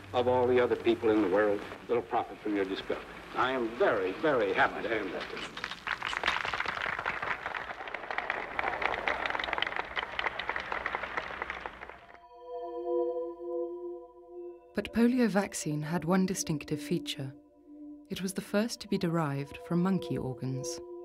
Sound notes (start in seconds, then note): 6.0 audience applauds; 12.7 eerie music